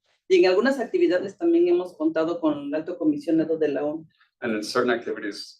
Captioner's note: speaking Spanish